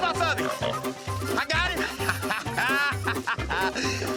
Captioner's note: laughing